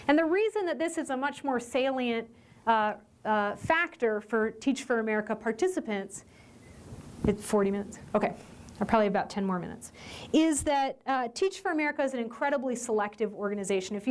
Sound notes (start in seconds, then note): none